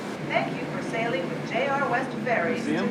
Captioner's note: on intercom